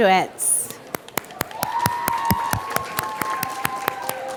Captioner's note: applause